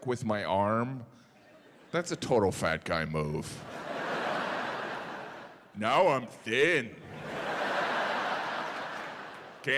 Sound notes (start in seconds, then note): 3.6 audience laughing; 7.0 audience laughing